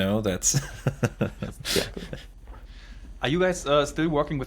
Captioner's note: laughs